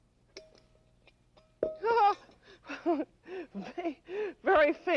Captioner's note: laughs